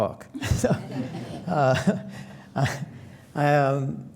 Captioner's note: laughter